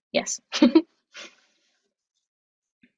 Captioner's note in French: rires